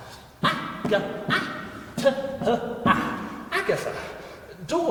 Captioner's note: creature stammering